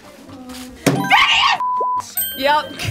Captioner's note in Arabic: صافرة